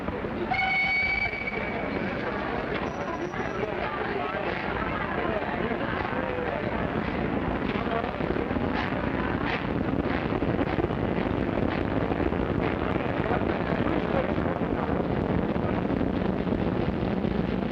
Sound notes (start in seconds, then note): 0.4 train whistling; 2.0 people murmuring; 4.2 train rumbling